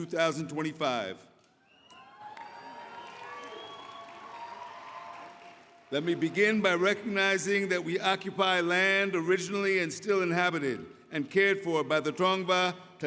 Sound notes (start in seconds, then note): 4.1 applause